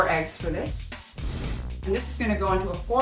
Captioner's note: screen whooshing